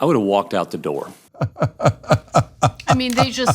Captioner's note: laugh